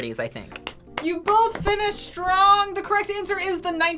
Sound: React claps

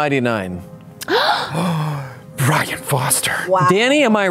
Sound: gasps

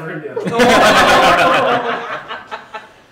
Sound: laughter

